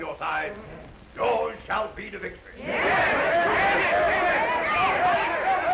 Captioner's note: crowd yelling